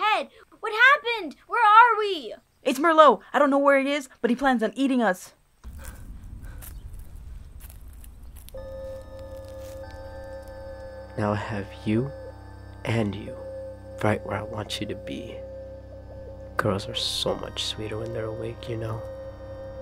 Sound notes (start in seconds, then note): 5.6 footsteps